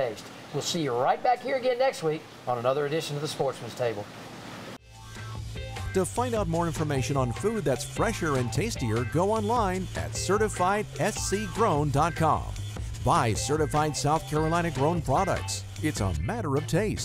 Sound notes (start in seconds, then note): 9.5 voiceover